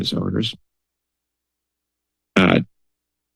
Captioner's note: pause